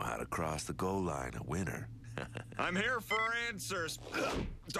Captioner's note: laughs